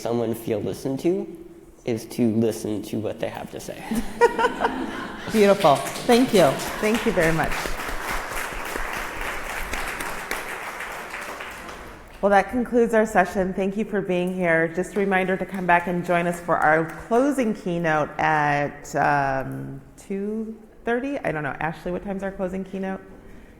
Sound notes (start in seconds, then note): 3.8 laughing; 10.4 applause